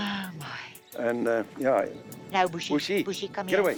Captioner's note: sighs